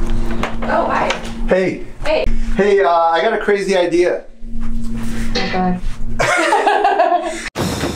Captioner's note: laughter